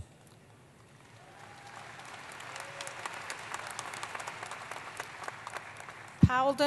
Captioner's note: applause